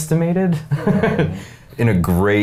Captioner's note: men laughing